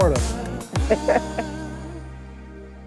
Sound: laughter

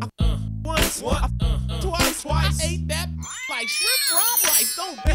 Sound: meows

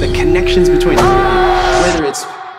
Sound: portal opening; screaming

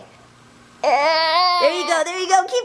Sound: grunts

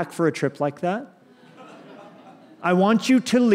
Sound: laughter

